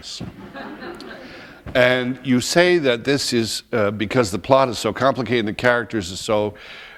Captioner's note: laughter